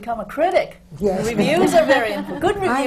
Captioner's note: laughter